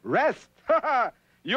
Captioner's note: scoffs